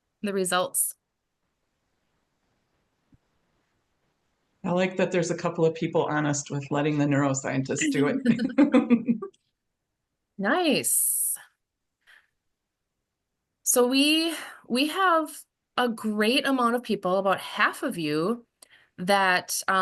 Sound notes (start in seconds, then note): 7.8 laugh